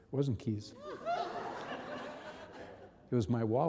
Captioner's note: audience and reverend laughing